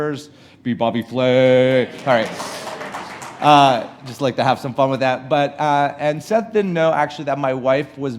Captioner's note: laughing